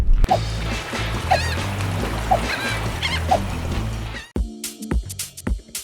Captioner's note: ocean waves lapping; gulls calling; upbeat music; jazzy music